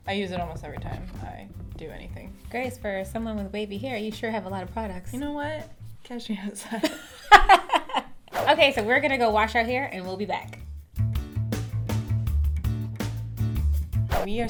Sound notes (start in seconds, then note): 6.7 laughs; 11.5 gentle music